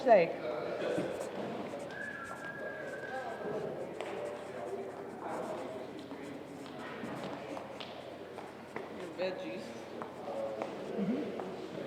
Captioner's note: pen signing